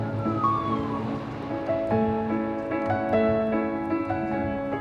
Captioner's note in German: Krankenwagensirene